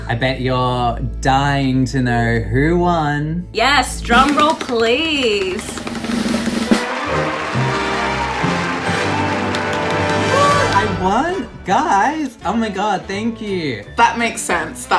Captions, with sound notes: - I bet you're dying to know who won. - Yes drum roll please. (celebratory music) (crowd cheering) - What I won? Guys! Oh my god, thank you. - That makes sense,